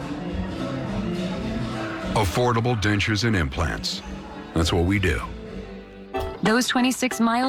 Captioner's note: none